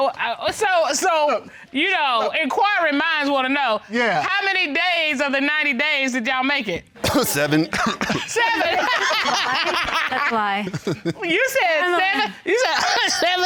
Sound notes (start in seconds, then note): 7.0 coughs; 8.5 laughs; 12.5 coughs